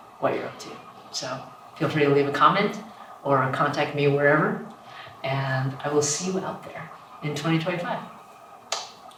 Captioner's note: blows a kiss